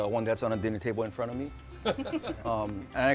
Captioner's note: laughter